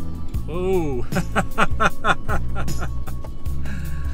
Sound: laughter

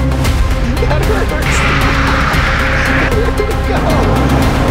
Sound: laughter

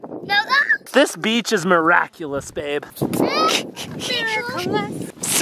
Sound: giggling

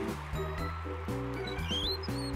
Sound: wheels squeaking

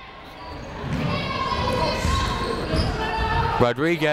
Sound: people shouting in the crowd

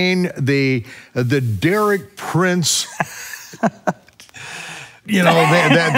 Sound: laughing

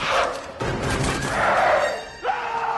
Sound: growls

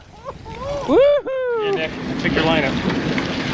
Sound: cheers

